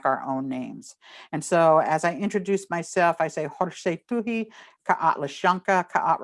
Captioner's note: non-english